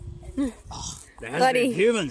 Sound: laughs

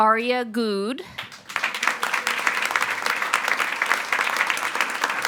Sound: attendees applauding

